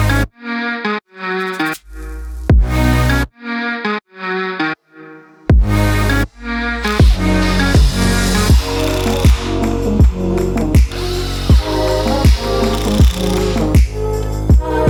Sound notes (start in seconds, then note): 6.7 drill whirring; 10.6 upbeat music